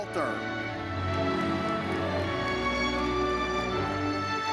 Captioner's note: audience cheers